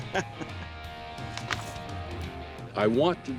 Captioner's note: laughs